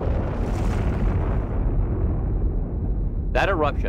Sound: volcano erupting

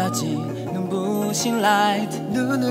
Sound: bling bling

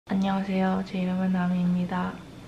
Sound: Korean

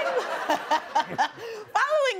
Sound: laughing

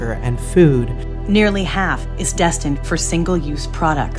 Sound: voiceover

